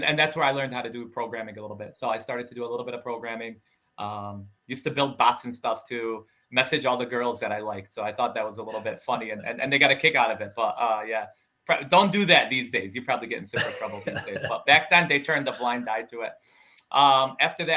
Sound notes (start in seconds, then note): 8.6 laughing; 13.5 laughing